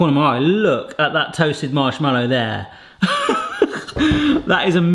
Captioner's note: laughs